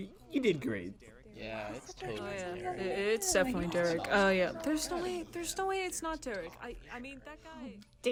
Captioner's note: crowd agrees and mutters praises about Derek